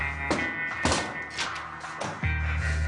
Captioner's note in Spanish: Portazo